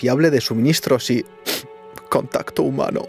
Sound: Snif

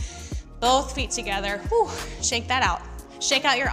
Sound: exhaling

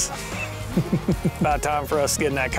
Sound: chuckles

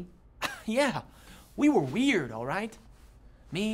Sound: chuckles

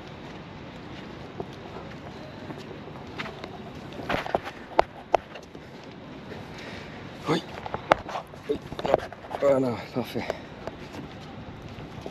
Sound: footsteps

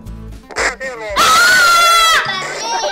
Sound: scream

